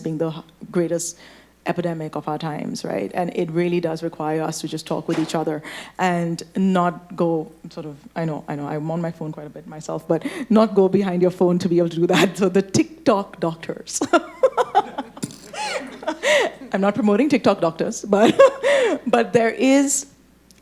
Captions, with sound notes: being the greatest epidemic of our times, right? And it really does require us to just talk with each other and not go sort of... I know, I know, I'm on my phone quite a bit myself, but not go behind your phone to be able to do that. So the TikTok doctors. (laughing) (audience laughing) I'm not promoting TikTok doctors, but there is...